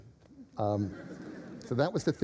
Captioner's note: laughter